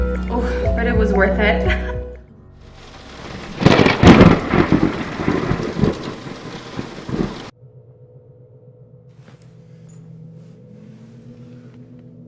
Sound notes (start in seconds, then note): 2.6 rain splashing; 2.7 thunder crackling